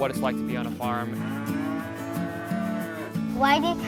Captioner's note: cow